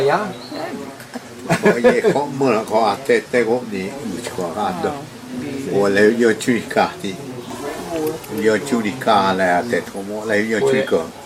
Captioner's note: speaking in Mayan